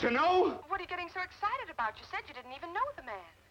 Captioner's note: on phone